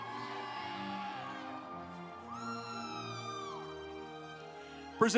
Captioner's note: audience applauds